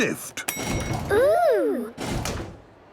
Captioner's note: lift pings